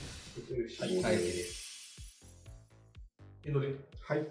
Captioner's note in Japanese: カーン